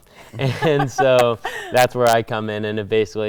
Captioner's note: laughing